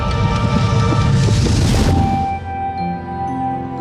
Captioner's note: whimsical music; whooshing